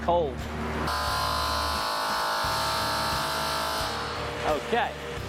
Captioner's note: loud buzz